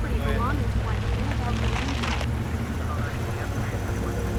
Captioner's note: police radio chatter